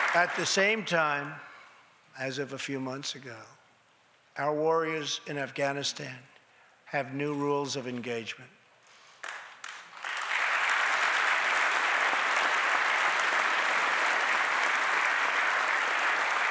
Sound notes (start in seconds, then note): 0.0 applause; 9.1 applause